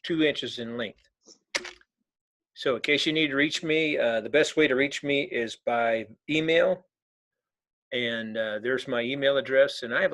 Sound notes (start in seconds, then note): 1.7 keyboard clicking